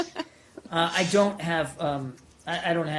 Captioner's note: laughter